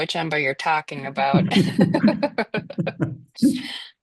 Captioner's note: laughter